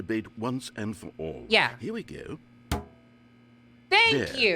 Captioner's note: bucket clangs